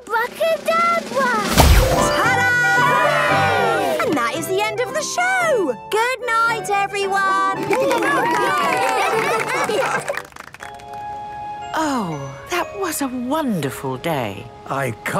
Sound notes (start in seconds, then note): 7.5 cheering, applause